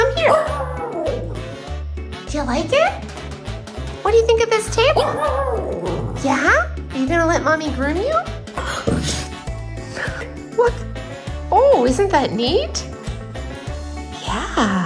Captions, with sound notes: [howling] Do you like it? What do you think of this table? [howling] Yeah? Are you gonna let Mommy groom you? [grumble] Look! Oh, isn't that neat? Yeah!